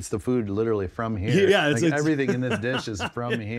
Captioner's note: laughing